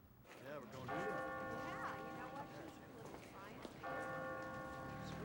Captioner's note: bell tolling